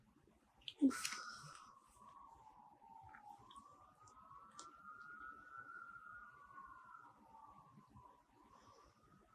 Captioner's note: sirens